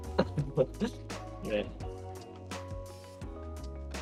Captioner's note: laughs